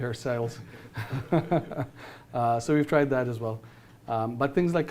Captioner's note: laughs